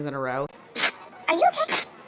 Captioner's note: repeated sneezing